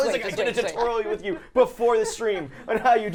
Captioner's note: laughing